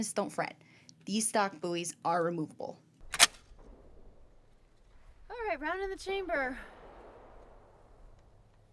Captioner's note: pause